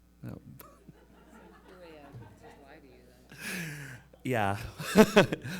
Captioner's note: audience laughing; speaks faintly